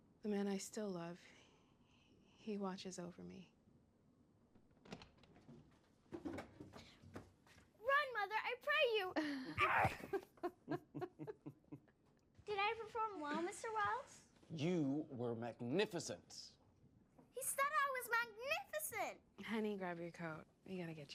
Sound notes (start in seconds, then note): 4.7 door opens; 9.2 chuckling